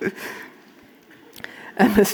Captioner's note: audience laughing